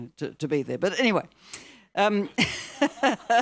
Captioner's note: laughs